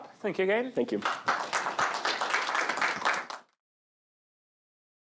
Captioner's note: applause